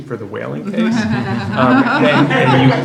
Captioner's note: laughs